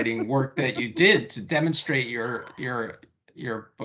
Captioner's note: chuckling